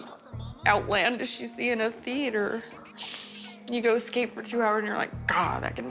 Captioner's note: sniffs